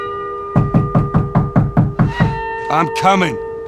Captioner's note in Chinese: 敲門聲